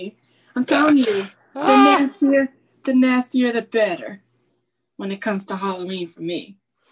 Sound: laughs

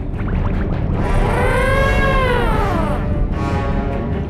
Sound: mastodon horns

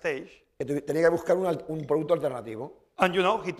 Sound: speaking spanish

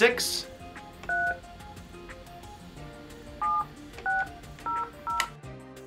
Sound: beeping

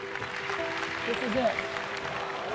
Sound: audience applauds

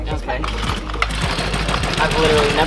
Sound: engine starting

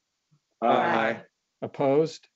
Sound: multiple voices

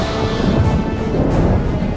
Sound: air Whooshing

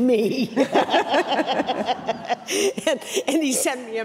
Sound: all laughing

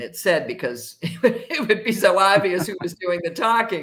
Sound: laughs

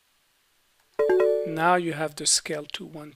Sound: beeping

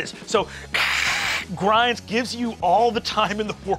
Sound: mimics scraping

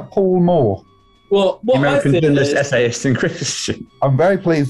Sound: laughing

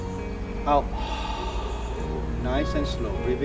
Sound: exhales

